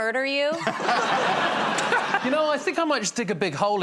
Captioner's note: laughter